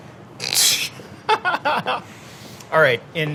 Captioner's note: laughing